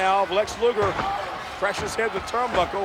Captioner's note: none